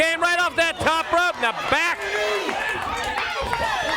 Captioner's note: crowd cheering